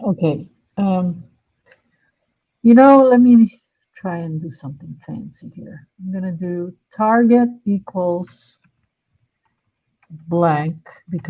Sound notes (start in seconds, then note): none